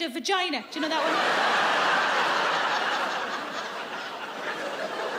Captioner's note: audience laughs